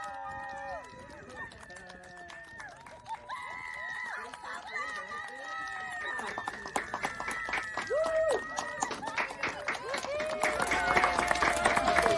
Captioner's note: clapping and cheering